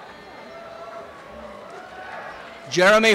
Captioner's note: applause and cheering